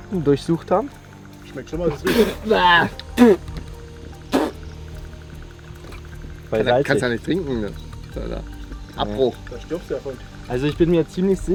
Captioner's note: sounds of disgust